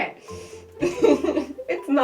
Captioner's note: laughter